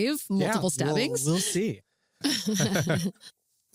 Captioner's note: laughter